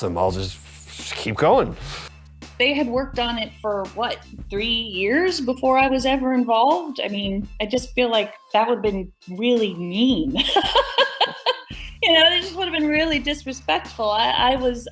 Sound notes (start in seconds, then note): 10.4 laughing